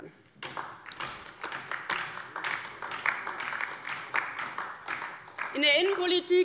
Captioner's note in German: Beifall DIE LINKE